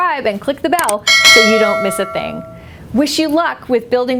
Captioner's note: bell clanging